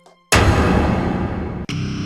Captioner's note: loud clanging; dark orchestral music; ominous metal music